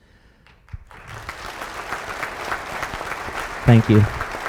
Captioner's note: audience applauds